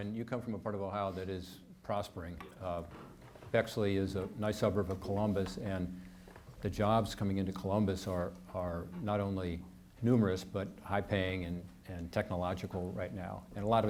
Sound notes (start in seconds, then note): none